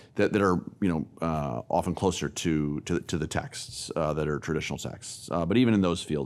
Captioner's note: none